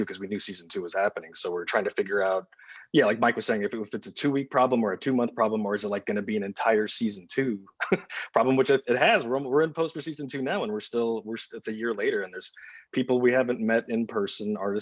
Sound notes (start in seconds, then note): 7.6 chuckles